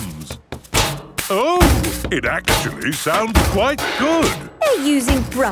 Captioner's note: rhythmic clanging